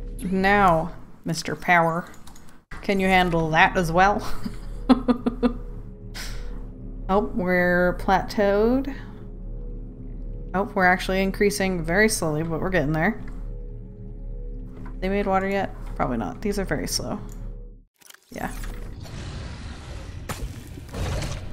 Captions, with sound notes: Now Mr power, can you handle that as well *laughs* Oh we're plateaued? Oh we're actually increasing very slowly but we're getting there. They made water yet? Probably not these are very slow. *sound of creature attacking*